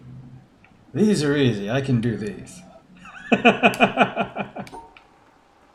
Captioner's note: laughs